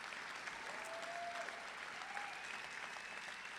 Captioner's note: cheers and applause